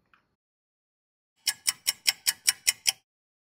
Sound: sound of a ticking clock

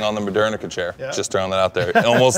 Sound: Ken laughing

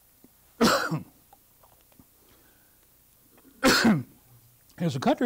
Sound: coughs

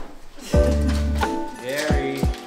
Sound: chuckling

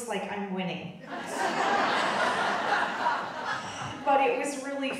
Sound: audience laughing

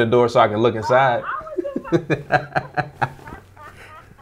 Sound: laughing

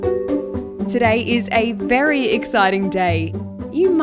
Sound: voiceover

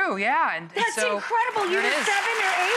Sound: audience applauds

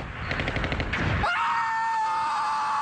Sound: screams in beta Untamed

